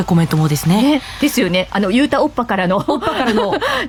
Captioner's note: laughs